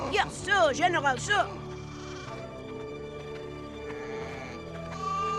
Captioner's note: sheep baaing